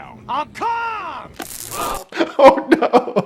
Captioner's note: taser buzzes